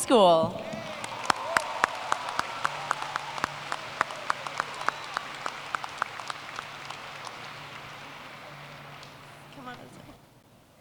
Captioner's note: applause